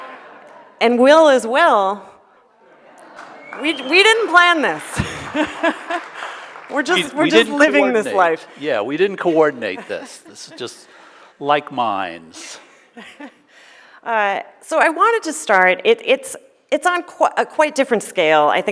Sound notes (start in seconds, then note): 4.7 laughs; 5.6 audience applauding